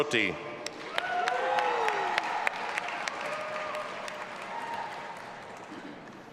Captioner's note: audience applauding and cheering